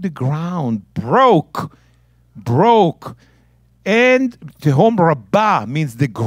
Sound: speaking in Hebrew

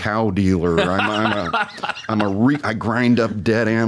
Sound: laughs

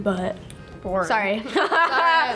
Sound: laughs

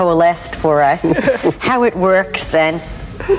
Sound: laugh

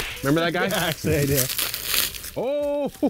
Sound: laughs

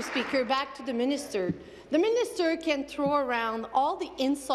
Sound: applause

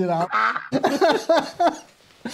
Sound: laughter

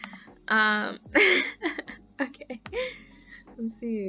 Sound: laughs

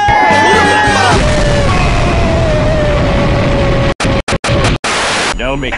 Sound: boooooooooooooooooooooom

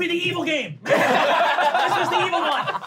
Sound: laughing

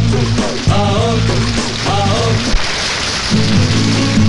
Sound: applauses

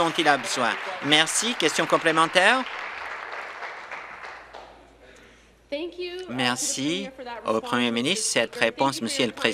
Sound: applause

